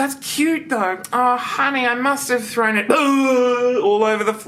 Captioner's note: mimics vomiting